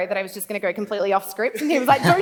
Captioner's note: laughs